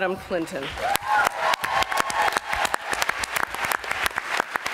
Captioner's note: applause